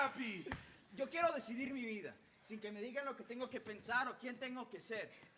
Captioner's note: speaking Spanish